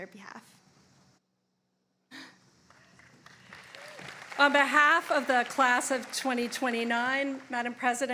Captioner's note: applause